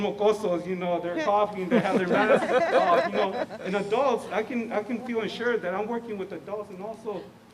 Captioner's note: laughter